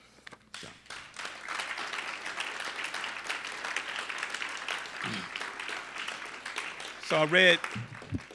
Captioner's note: applause